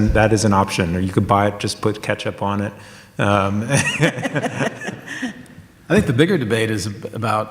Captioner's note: laughs